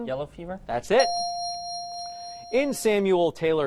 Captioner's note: bell dings